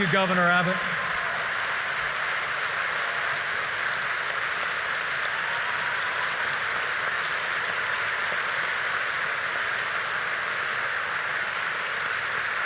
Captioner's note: applause